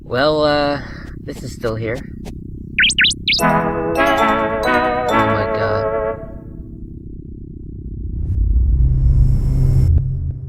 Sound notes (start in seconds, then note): 2.8 Toneth chirping; 3.4 bright jingle